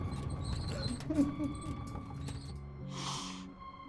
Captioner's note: cart squeaking